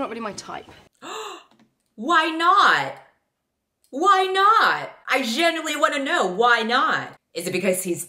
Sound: gasp

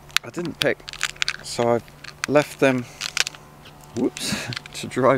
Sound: pod cracking

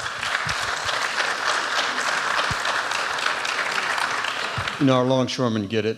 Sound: applause

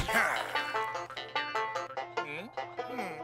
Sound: cartoon sounds

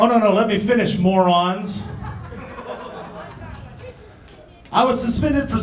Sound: laughing

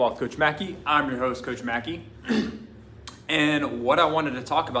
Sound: clears throat

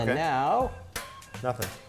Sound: snapping sound

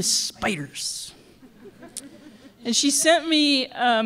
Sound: laughter

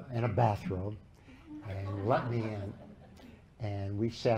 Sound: laughter

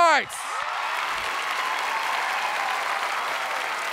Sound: crowd cheering

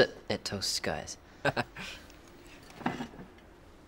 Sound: laughs

